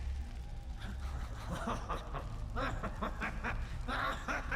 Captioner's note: laughs menacingly